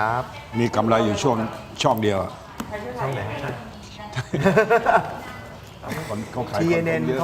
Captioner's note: laughs